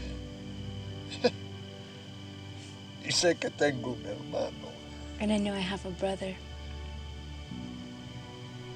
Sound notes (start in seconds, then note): 3.2 speaking spanish